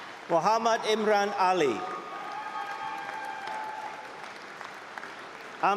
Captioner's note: applause and cheering